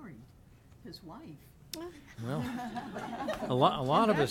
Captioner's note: laughing